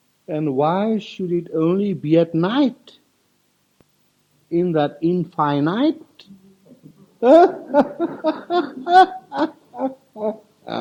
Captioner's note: laughs